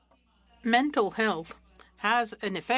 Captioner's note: speaking French